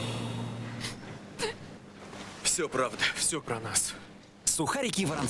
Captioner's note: cry